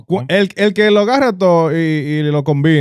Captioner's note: speaking In Foreign Language